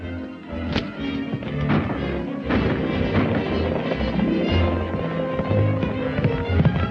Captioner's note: dramatic orchestral music; guns firing